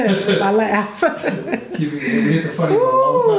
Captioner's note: laughs